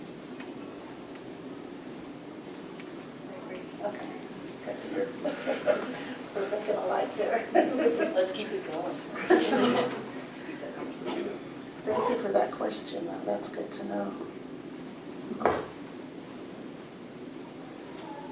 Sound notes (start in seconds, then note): 4.6 laughs; 9.1 laughter